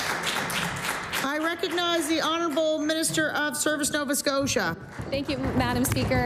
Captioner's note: applause